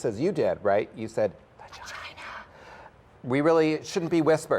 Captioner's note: whispering